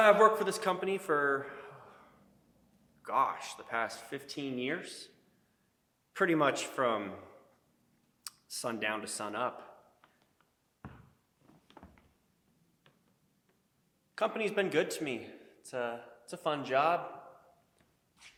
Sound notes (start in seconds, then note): none